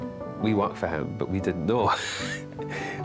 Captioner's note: male speaker chuckles